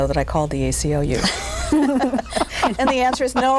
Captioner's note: all laugh